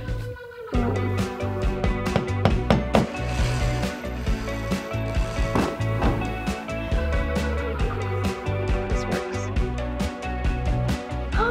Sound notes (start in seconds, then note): 2.1 hammer tapping; 2.9 drill whirring; 10.3 gasping